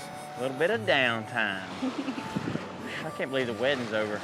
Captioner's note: giggles